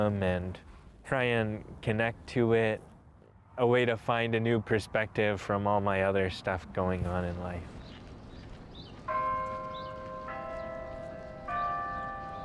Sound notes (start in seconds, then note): 9.1 bell tolls